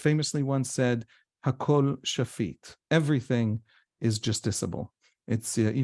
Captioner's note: hebrew